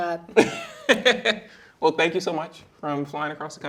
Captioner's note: chuckling